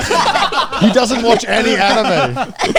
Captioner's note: everyone laughing